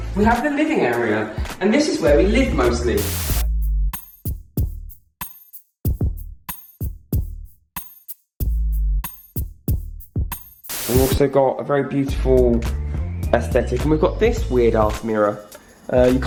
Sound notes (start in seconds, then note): 2.9 static; 6.5 deep bass music; 10.7 static